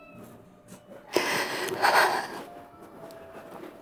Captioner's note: crying